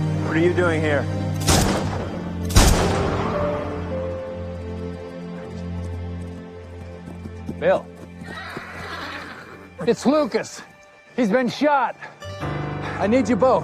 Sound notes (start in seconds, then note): 1.4 gun shots; 3.7 horse approaching